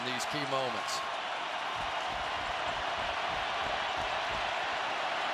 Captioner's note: crowd cheering